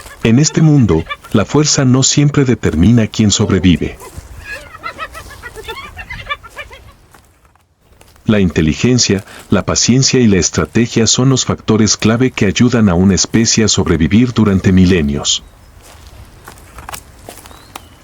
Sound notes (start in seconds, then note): 4.5 laughs